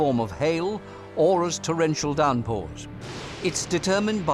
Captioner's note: thunder